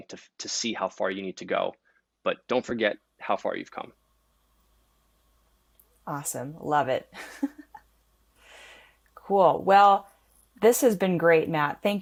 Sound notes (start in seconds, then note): 7.2 laughs